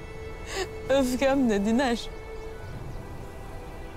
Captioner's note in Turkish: Ağlayarak